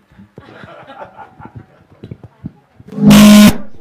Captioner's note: laughter